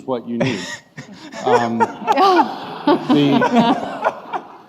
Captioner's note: laughing